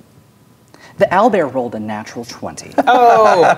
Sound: regular voice; players laughing

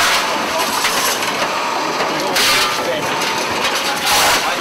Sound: metal clanking

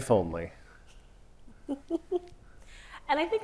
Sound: chuckles

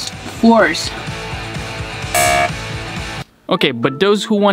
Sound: lively music; electronic buzzing

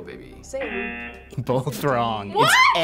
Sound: buzzer

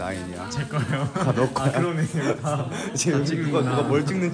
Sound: laughing

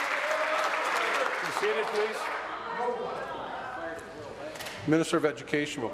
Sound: applause

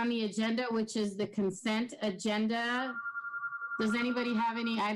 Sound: pone rings

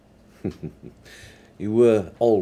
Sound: laughing

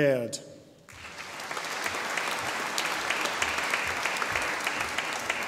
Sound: audience applauding

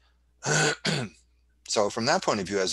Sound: clears throat

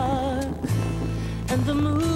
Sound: rain, thunder

